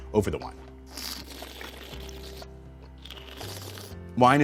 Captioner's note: slurping